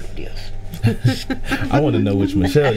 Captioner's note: group laughing